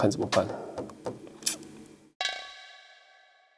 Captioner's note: sucking teeth sound